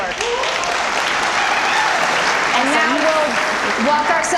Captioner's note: audience applause